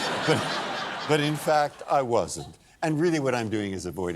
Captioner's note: laughter